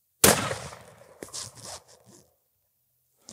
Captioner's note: gun shot